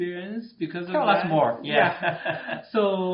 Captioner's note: laughs